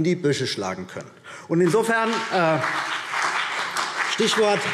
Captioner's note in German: Beifall CDU und BÜNDNIS 90/DIE GRÜNEN